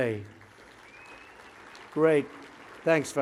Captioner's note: applause